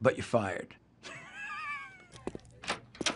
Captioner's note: laughter